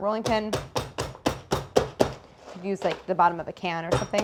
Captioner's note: rolling pin thudding